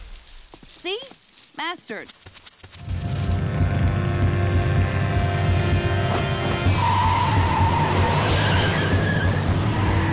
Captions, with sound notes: See? Mastered. [tires squealing]